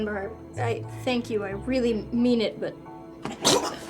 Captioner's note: Nicholas vomits